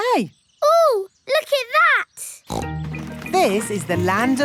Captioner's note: snorts